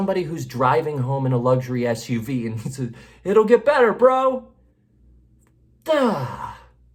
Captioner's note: groans